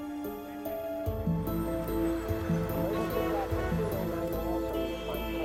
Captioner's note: breaks squealing, car horns honking